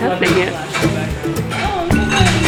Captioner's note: conversations